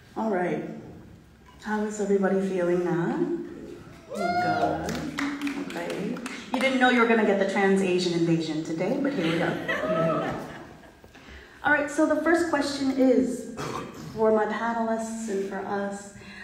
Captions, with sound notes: All right, how is everybody feeling now? (audience cheering) (audience clapping) You didn't know you were gonna get the trans Asian invasion today, but here we go. All right, so the first question is for my panelists and for us.